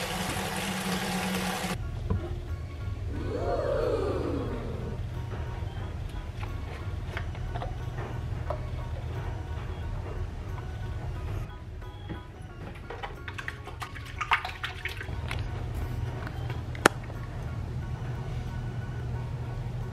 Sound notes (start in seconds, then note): 3.1 ooohs sound effect